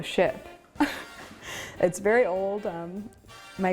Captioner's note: laughs